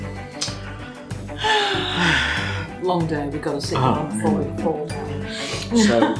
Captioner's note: sigh